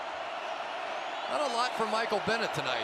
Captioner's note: cheering